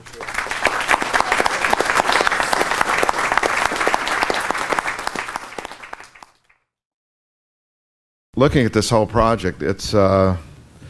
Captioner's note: applause